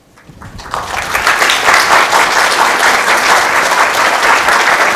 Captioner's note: audience applauding